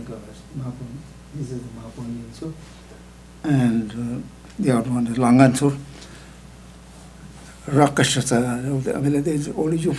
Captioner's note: speaking indian